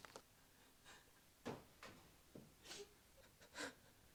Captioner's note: Nellie sobs